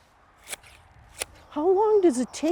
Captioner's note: clippers snipping